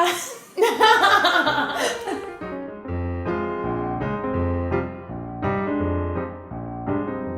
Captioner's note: laughter